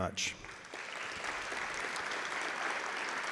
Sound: claps

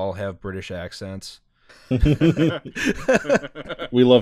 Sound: laughter

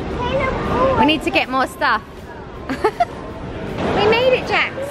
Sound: laughing

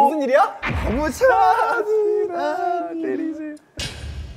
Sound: overly emotional

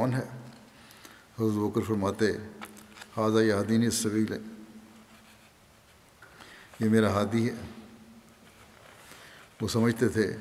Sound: Arabic

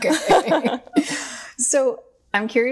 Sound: both laughing

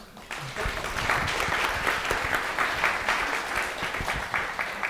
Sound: audience applauding

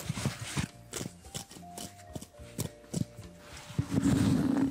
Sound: fabric tearing

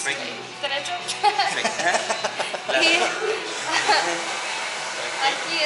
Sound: laughter

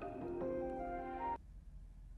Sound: alarm clock

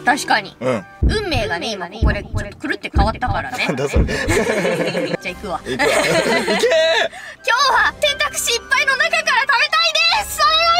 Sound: laughter

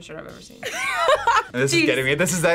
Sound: laughs

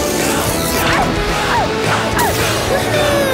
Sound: barking

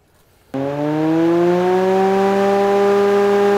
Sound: fan whirring

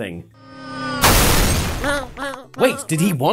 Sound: crash; llama bleating

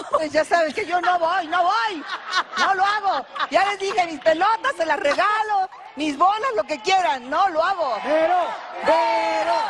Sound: applause

